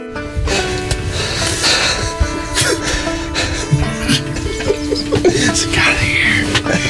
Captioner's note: men laughing, whispering over each other